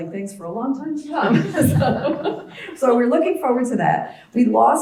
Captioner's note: laugh